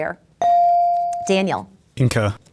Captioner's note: bell dings